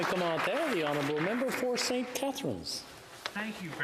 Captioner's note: applause